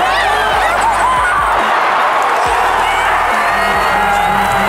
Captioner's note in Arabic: هتاف